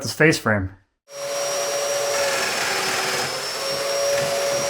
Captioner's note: machinery whirs